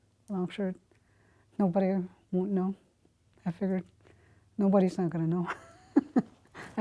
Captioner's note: laughs